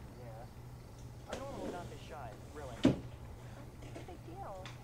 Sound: man’s Voice

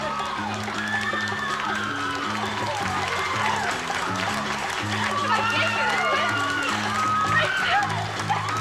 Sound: audience applauding

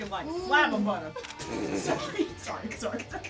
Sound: laughing

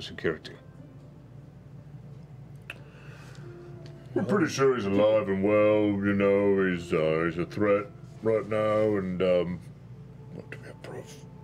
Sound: whispering

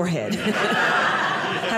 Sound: audience laughing

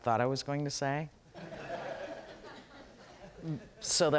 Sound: audience laughs

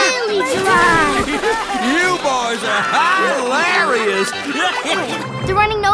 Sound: laughing

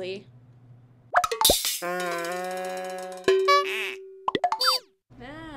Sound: wacky noises

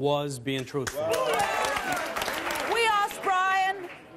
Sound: audience applause

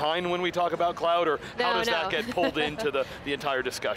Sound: laughs

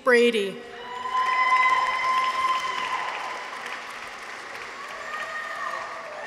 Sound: people cheer; audience applauds

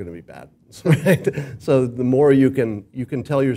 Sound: laugh

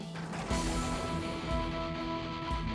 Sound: thunder strikes

